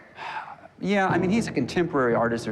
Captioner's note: sighs